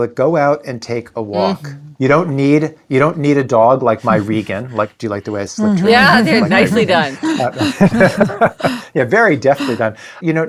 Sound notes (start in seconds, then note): 7.3 all laughing